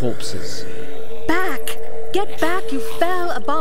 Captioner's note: hissing and growling